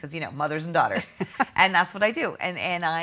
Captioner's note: laughing